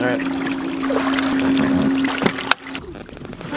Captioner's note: water splashing; device beeping; device clicking